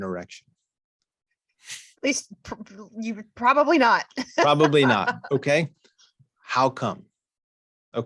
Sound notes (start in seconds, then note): 4.2 chuckles